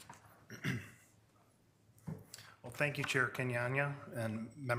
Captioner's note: clears throat